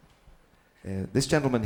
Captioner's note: audience titters